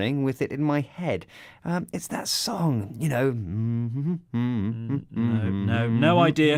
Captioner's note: hums some kind of pop song